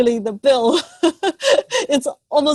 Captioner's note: laughs